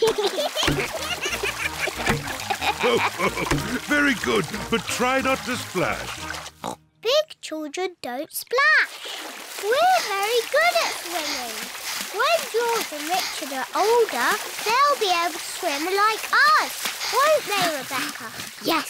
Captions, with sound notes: (BOTH GIGGLE) (LAUGHS) Very good, but try not to splash. (OINKS) Big children don't splash. We're very good at swimming. When George and Richard are older, they'll be able to swim like us, won't they, Rebecca?